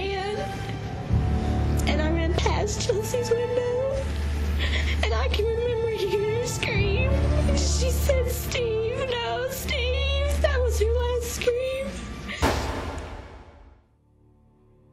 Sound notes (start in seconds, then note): 12.4 gunshot